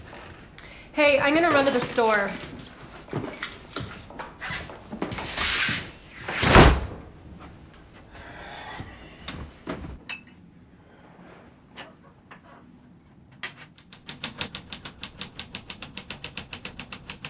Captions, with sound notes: - Hey, I'm gonna run to the store. (keys jingling) (door slams) (Ben sighs) (footsteps retreating) (typewriter keys clacking)